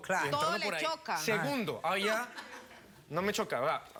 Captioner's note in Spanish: risas